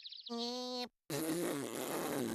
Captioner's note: jeering